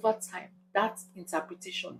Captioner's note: paause